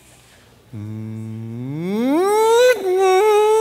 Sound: vocalizes engine revving

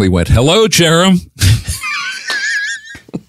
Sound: laughing

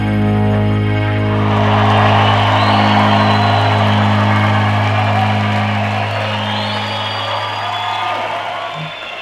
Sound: audience cheering

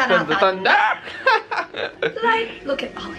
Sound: both singing; laughter

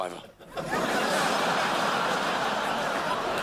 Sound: crowd laughs

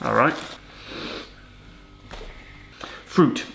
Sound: sniffs

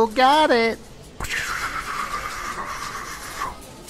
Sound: magical noises

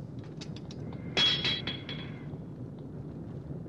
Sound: banging

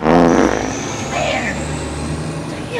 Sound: farting

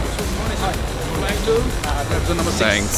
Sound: people chattering

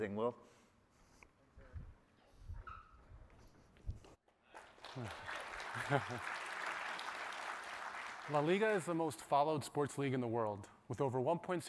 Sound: applause

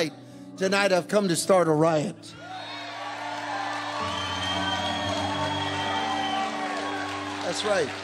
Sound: congregation cheering

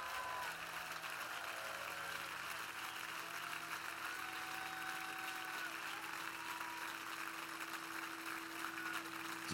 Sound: cheers and applause

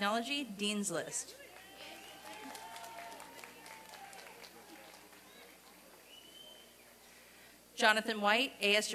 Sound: applause and cheering

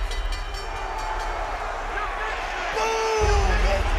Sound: bell dings

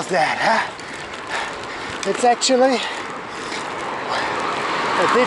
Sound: heavy breathing

